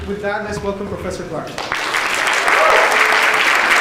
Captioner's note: applause